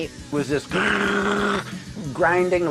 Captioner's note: imitates guitar grinding